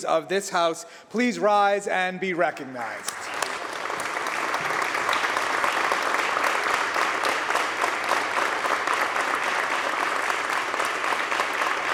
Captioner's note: applause